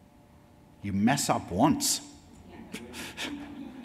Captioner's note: laughs; audience laughs